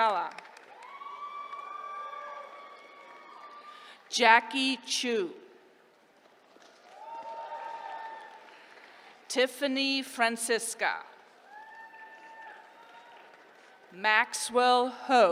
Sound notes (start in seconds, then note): 0.0 applause; 6.1 applause; 11.3 applause